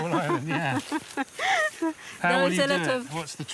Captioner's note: laughing